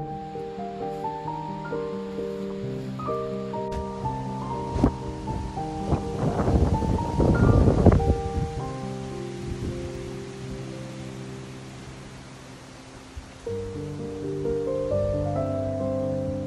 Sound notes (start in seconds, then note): 0.3 expressive piano music; 0.3 leaves rustling; 3.9 wind whipping; 11.2 expressive piano music; 11.2 leaves rustling